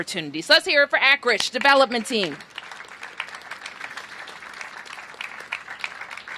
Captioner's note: applause